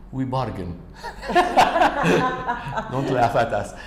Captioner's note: laughter